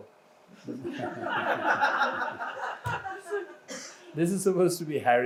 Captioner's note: audience laughs